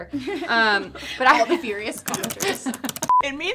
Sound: clicking keyboard keys

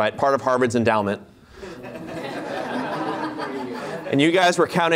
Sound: laughter

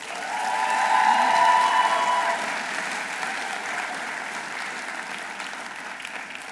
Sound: audience cheering; audience applauding

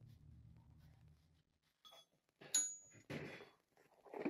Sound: bell dinging

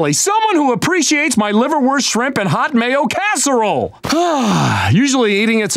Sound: sighing

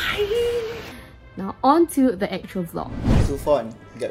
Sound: whoosh

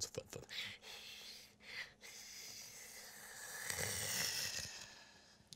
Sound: breathing loudly

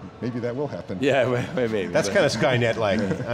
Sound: all laugh

